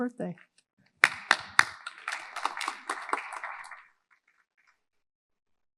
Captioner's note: audience applauding